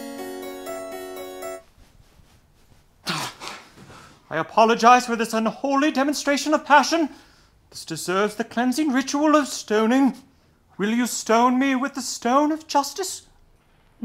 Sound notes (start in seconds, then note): 0.0 harpsichord music; 3.8 gasp